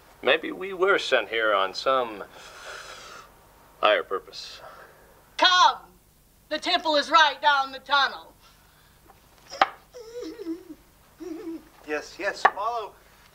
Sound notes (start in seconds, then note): 9.1 old person grunting